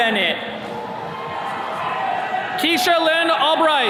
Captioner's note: attendees cheering